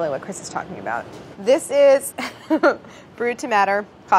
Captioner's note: laughs